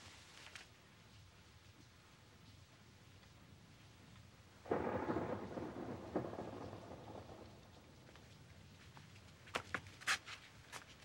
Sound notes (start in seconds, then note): 4.6 thunder rumbling; 8.2 rain dripping